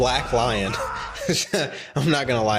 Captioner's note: laughs